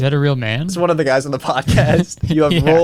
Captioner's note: laughs